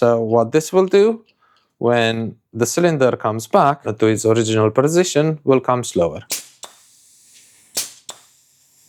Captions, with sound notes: So what this will do when the cylinder comes back to its original position will come slower. (clicking)